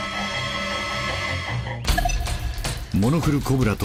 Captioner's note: صوت تهديد